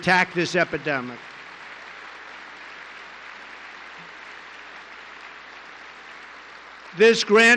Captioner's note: applause